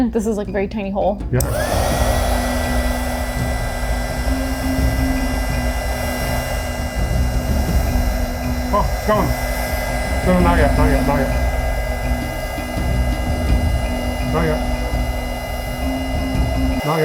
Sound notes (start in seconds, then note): 3.5 heat gun flaring; 3.5 tense music